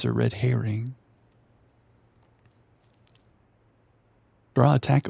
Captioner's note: silence